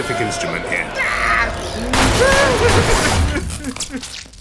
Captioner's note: Ridge screaming